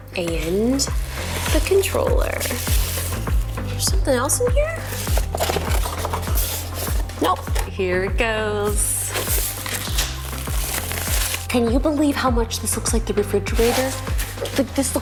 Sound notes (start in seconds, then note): 2.4 upbeat music; 4.8 box shakes; 8.9 box unwraps